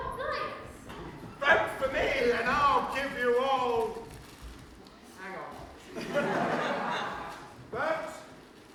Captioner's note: laughter